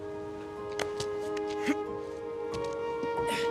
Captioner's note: grunts